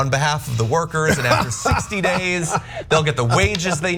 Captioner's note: laugh